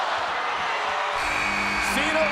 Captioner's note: chamber buzzes